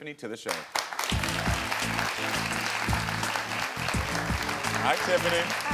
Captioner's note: audience applauds; upbeat music